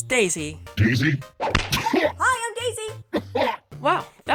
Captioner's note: heaves and keels over in pain